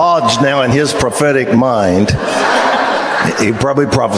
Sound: congregation laughs

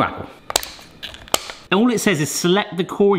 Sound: scissor snips

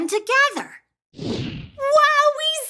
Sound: whooshing

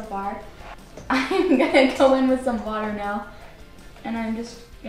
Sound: chuckles

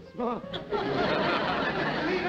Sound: laughter

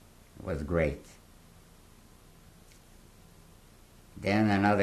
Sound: pauses for 3 seconds

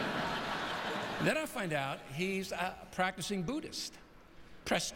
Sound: laughter

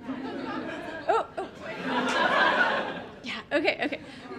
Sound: audience laughing

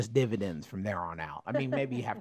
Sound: laugh

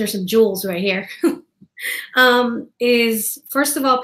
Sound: laughing

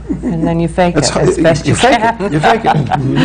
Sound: laughs

